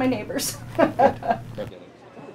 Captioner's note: laughs